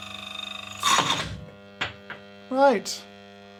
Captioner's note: grinder whirring and squealing; grinder thudding; grinder buzzing